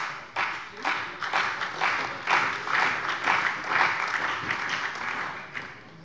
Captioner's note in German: Beifall bei der CDU und dem BÜNDNIS 90/DIE GRÜNEN